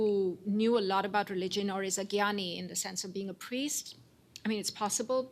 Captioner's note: non-english